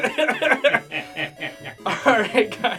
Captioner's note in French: tous les deux rient